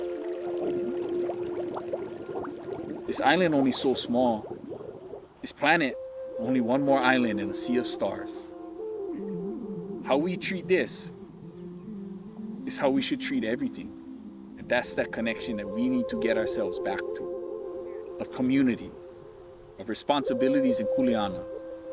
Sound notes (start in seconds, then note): 0.0 water splashing